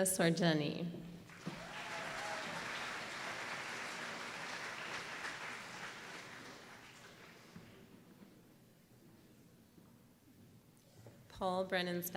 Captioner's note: applause